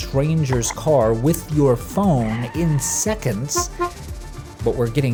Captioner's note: car honking